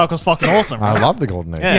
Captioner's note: coughs